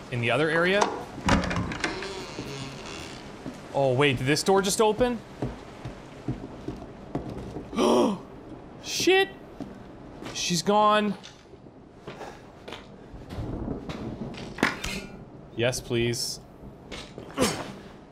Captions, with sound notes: In the other area? (door creaking) Oh wait, did this door just open? [gasps] Shit! She's gone! Yes, please.